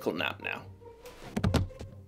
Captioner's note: thud